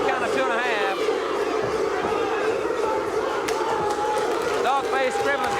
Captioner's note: audience barking